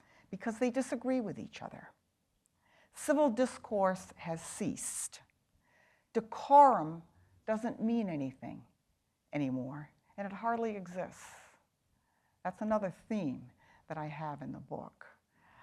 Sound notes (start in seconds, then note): none